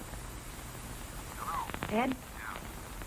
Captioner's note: on phone